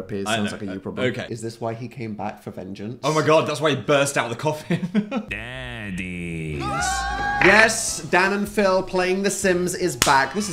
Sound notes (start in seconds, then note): 6.5 Dan and Phil scream